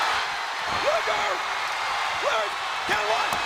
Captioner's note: audience cheers